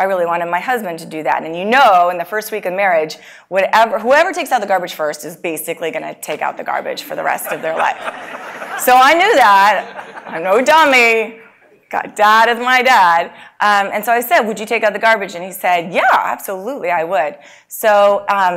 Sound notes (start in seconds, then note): 7.3 laugh